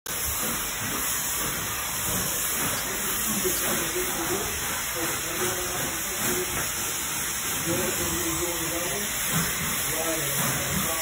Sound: tile and grout cleaning machine hissing

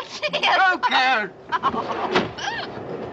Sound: door opens

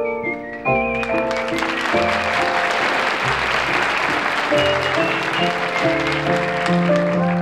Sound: audience applauds

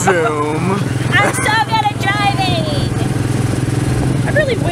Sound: zoom; little kids voice

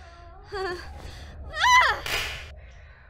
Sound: screams; KOTONOHA slaps MAKOTO

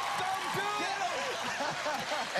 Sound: laughter

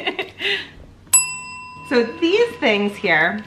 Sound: ding

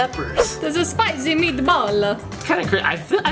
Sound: Italian accent

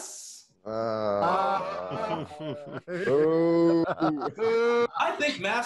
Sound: boos and groans

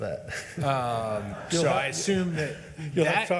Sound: laughs; members laughs

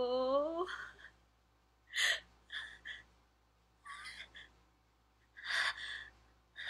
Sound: crying in pain..Huhuhu

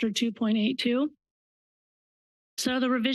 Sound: pause

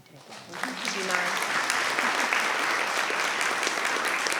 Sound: attendees applauding

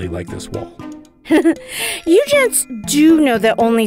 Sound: snicker

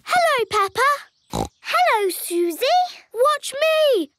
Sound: snorts

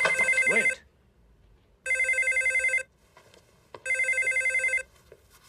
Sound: phone ringing

